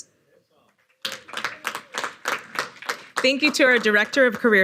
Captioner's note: audience applauding